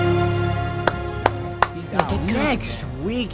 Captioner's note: clap